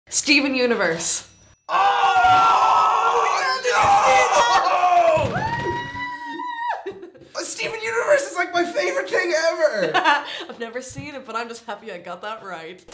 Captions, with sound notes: Steven Universe *cheers of absolute joy* Yeah! Did you see that? Wooooo! Steven Universe is like my favourite thing ever! [Laughing] I've never seen it, but I'm just happy I got that right.